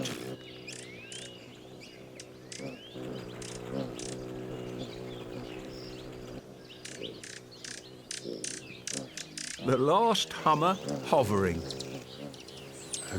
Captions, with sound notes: (wings hum) The last hummer hovering.